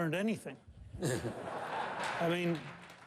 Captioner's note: laughter